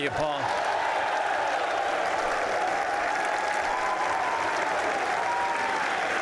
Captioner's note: applause